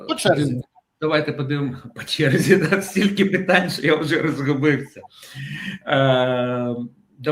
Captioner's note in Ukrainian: сміх